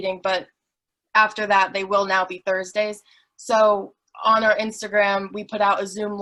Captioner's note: none